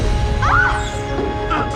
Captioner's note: erica screams